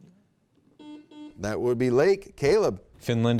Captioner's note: buzzer beep